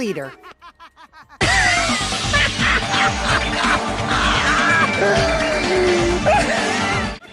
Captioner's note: crazy laugh